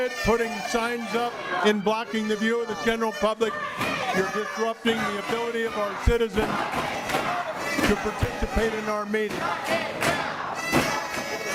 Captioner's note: audience chanting shut it down